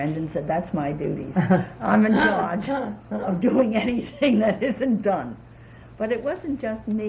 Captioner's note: laughter